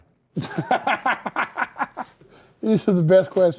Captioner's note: laughs